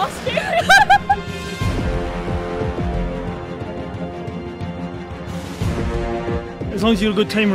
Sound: laughter

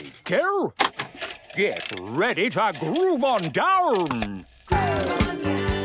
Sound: clicks, whirring; disco music plays

